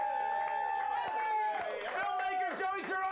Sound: audience cheering

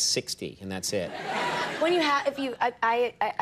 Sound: audience laughing

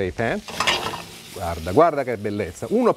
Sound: speaking Italian

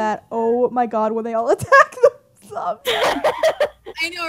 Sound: laughing

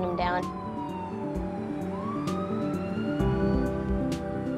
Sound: siren wailing

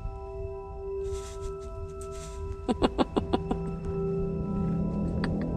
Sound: laughs

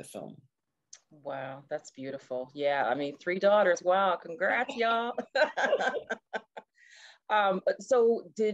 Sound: laughing

